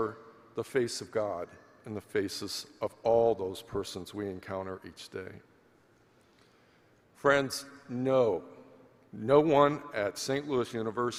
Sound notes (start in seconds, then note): none